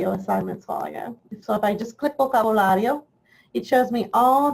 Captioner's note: speaks in foreign language